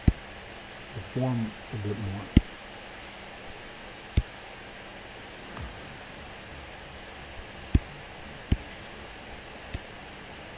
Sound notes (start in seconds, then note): 2.3 computer mouse tapping; 2.3 faint techno music